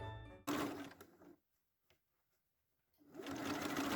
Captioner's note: sewing machine sound